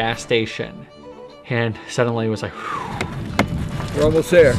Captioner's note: exhales